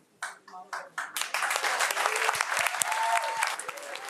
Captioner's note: audience applauds